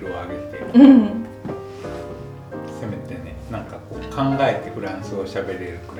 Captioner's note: laughs